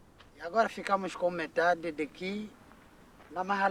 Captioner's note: speaking in local language